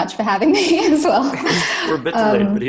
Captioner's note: laughs